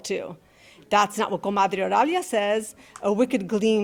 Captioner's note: speaking in Spanish